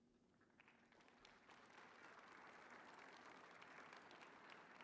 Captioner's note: audience applauding